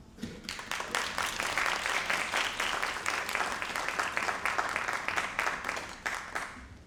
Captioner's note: all applauding